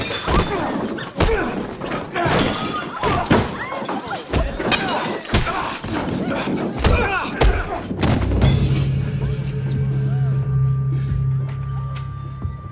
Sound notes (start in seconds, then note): 1.2 men grunting; 4.2 punches landing; 7.9 dramatic music